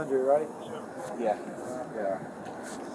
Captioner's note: radio chatter